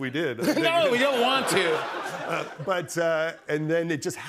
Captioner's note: laughter